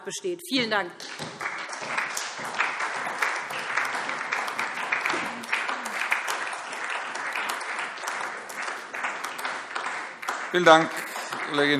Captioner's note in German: Beifall SPD, Freie Demokraten, DIE LINKE und vereinzelt AfD